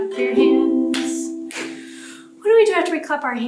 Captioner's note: clap, clap